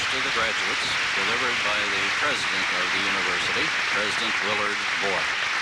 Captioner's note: applause